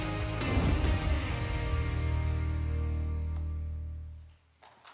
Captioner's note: applause